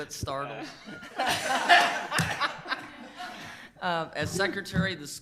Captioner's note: people laughing